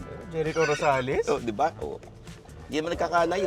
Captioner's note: laughs